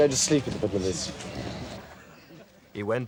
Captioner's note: Andrew snores